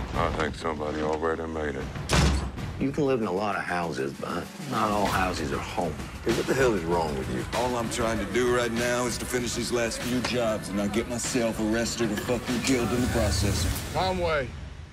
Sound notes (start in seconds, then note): 2.1 gunshot